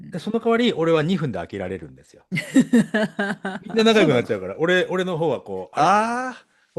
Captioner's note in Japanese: 笑い